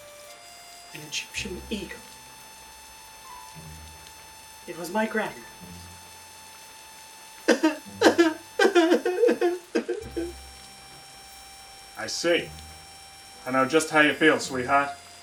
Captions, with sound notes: An Egyptian Eagle! It was my grandmother's. [Sobbing] I see... I know just how you feel, sweetheart.